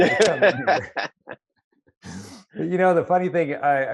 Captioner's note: laughs